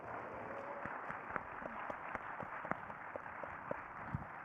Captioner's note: crowd applauding